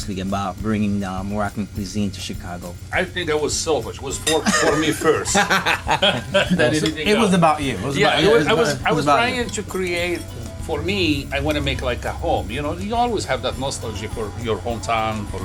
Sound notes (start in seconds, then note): 4.2 all laughing